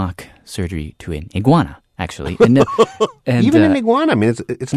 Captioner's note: laughs